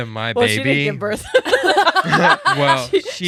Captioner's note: laughing